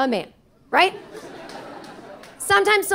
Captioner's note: audience laughing